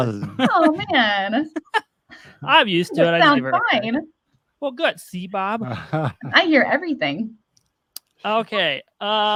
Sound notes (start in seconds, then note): 0.0 chuckles; 5.4 chuckles